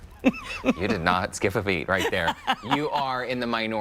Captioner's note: laughter